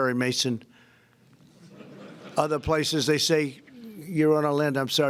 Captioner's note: laughter